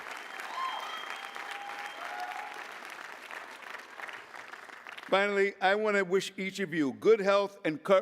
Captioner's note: applause